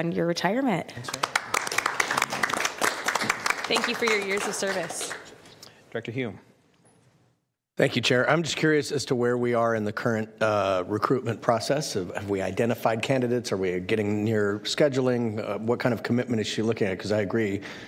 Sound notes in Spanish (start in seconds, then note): 5.4 aplauso